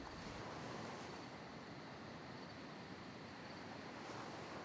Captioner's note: nighttime ambience